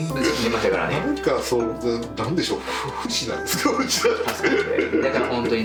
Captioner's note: laughs